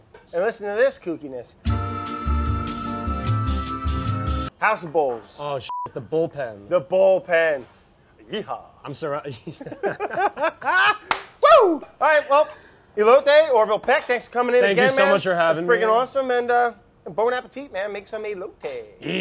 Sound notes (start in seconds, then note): 1.6 smooth melody; 9.4 both laugh